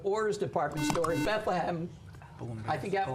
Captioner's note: buzzer